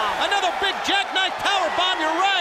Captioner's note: crowd cheering